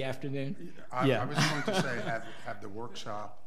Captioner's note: laughs